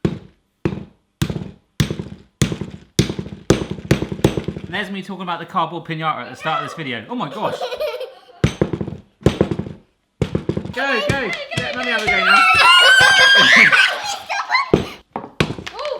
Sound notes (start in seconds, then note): 0.1 thumping repeatedly; 7.1 giggling; 10.2 thumping repeatedly; 12.0 screaming; 14.6 thumping